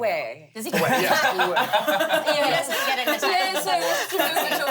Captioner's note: laugh